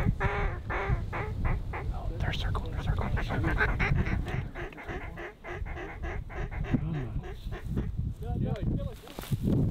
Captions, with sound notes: (Calling ducks) No they’re circling, they’re circling, they’re circling. Turn, turn.... (Calling ducks) Kill him, kill him, kill him!